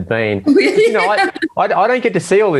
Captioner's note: laughs